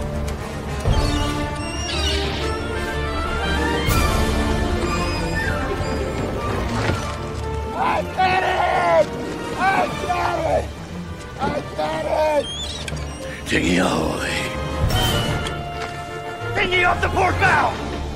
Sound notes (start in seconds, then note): 0.0 seagulls calling; 4.7 seagulls calling; 11.3 seagull calling